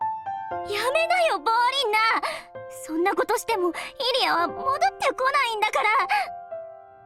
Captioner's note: sob